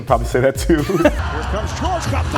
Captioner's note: host laughs